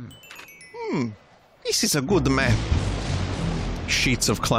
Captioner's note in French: imite Luigi